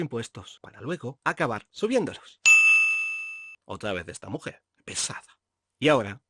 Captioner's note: ding sound